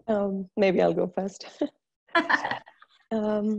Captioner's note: laughs